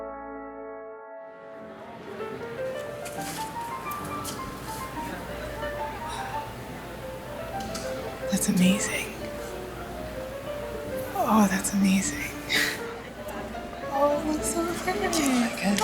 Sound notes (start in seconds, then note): 9.2 laughs